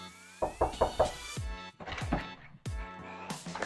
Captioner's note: knocking